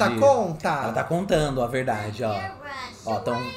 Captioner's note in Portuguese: sims conversando